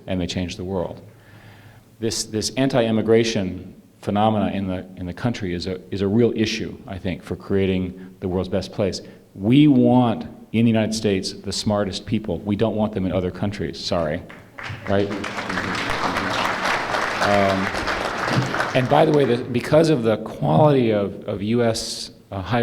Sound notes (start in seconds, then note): 14.2 applause